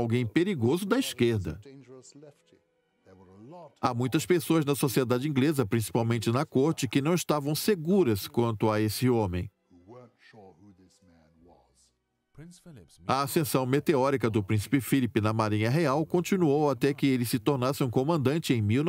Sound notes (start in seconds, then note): 12.0 voiceover